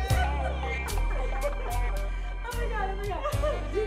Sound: laughing

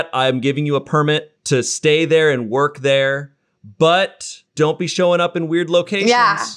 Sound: none

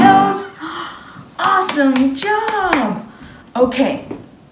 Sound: claps

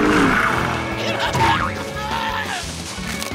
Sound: growling; yelling

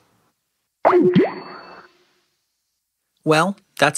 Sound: popping

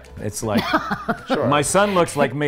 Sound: laughs

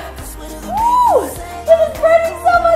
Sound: groaning

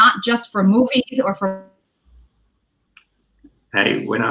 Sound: audio gets distorted

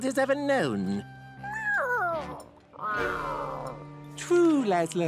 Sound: meows

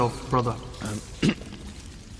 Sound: ahem

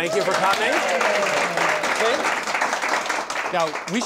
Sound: cheers and applause

